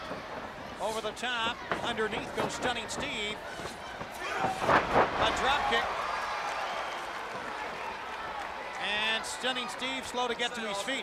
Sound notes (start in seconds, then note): 6.3 crowd cheering